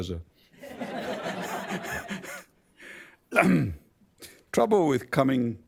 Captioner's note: laughter